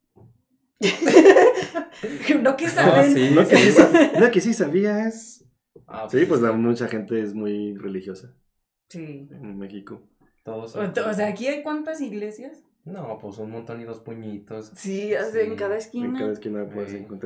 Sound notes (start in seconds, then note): 0.8 laughter; 3.3 laughing & teasing